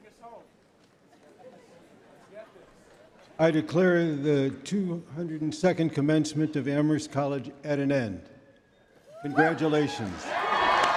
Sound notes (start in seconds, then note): 9.2 cheering and applause